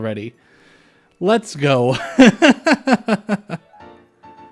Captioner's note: laughter